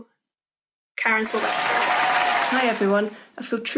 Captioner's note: applause